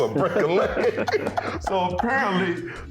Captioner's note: laughing